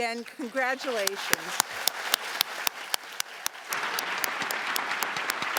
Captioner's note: applause